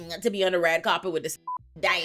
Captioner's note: beep